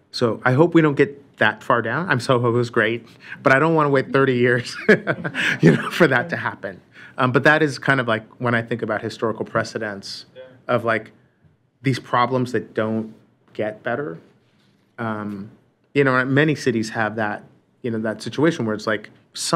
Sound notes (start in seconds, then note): 4.5 laughter